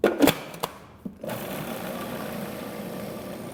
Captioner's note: blender sound